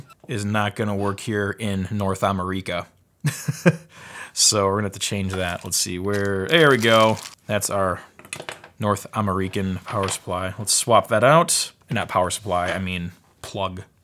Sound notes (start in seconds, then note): 3.4 laughs